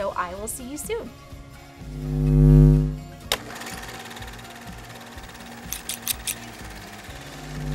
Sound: sewing machine stitching; upbeat music

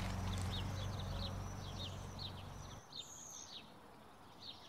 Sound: birds chirping

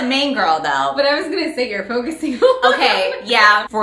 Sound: laughs

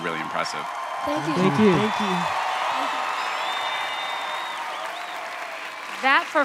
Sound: cheering

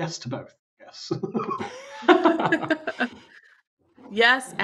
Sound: laughter

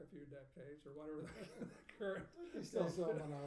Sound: laughing; speaking faintly

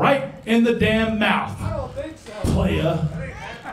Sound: crowd mumbles angrily

